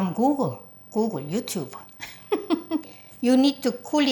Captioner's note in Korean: 웃음소리